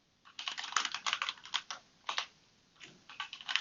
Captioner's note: typing